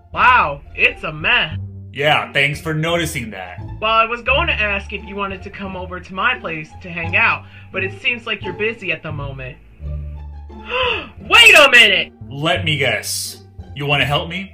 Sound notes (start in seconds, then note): 10.6 gasps